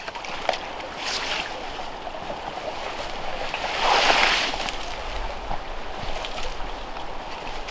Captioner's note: tree rustling; water burbling